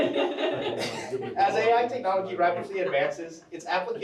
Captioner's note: giggles